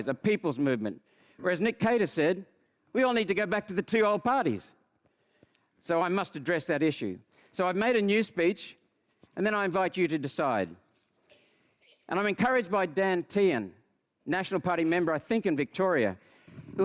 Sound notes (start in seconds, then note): none